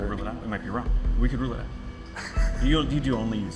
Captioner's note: laughs